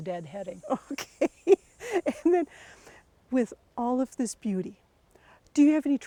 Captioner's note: laughing